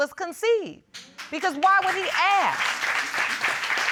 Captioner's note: audience applauds